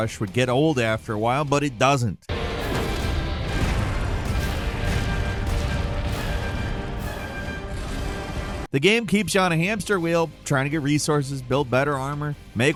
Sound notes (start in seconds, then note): 2.3 explosions rumbling; 2.3 dramatic music